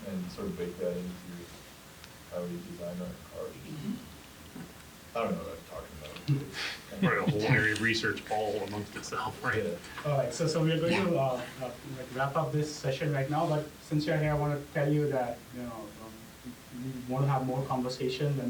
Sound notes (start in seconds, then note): 7.0 laugh